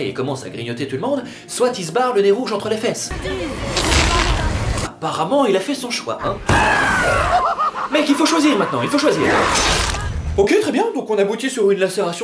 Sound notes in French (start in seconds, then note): 6.7 rire de clown